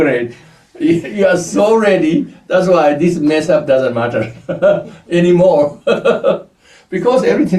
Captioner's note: laughs